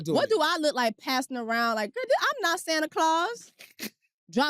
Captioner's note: laughs